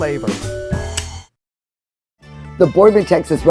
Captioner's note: lighter clicking